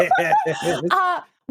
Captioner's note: laughing